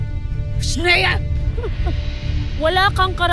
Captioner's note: chuckles sarcastically